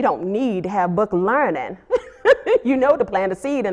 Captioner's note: laughs